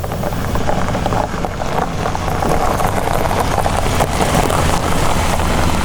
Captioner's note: car engine humming; tires scrunching